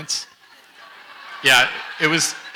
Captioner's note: audience laughs